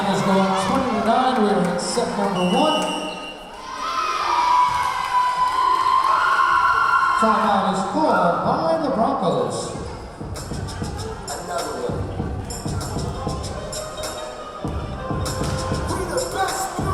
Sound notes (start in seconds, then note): 2.3 whistle blowing; 5.1 yelling; 11.7 rap music